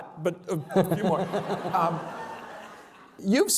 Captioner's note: laughter